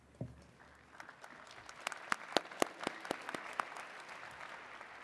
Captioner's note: attendees clapping